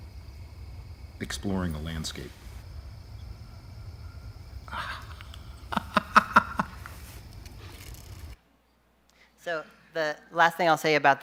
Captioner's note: chuckles